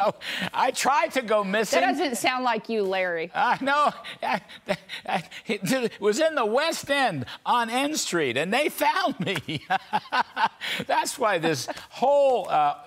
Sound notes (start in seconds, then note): 4.2 laughter